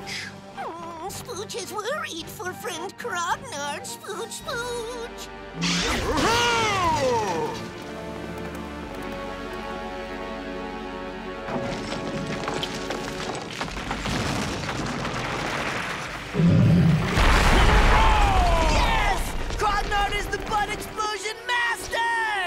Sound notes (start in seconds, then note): 5.6 grunting; 16.6 rumbling, screaming